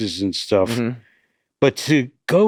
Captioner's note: Glenn grunt affirmatively